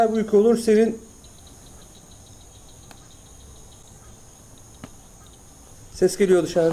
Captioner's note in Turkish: Dışarıdan tıkırtılar geliyor